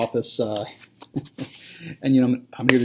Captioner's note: laughter